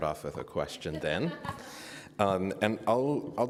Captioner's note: audience chuckling